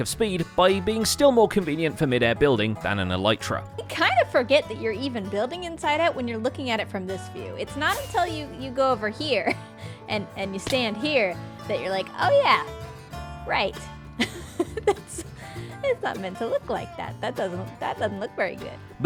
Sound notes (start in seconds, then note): 14.2 laughs